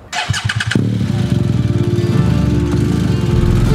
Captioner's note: engine starting and revving sound